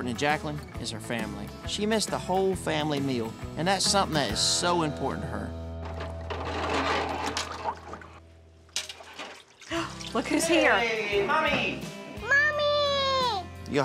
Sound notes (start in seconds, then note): 5.8 dishes clattering